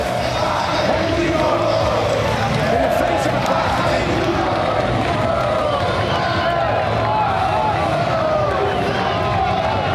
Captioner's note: crowd screaming